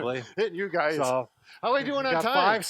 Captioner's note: laughs